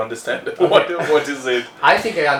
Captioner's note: laughs